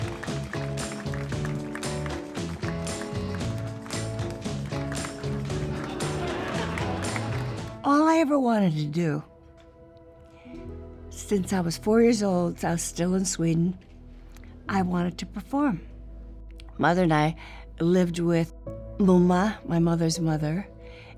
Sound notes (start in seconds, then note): 0.3 upbeat music; 5.0 audience laughing